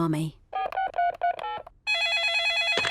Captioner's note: dialing; phone rings